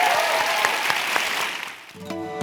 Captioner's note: applause